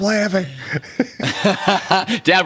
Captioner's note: both laughing